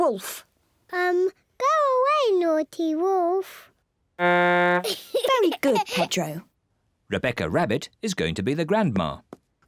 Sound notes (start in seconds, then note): 4.3 blows horn, giggles